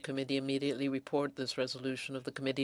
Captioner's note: speaking french